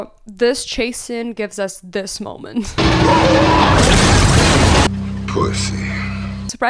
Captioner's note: car crash